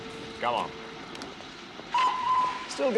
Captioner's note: train whistle blows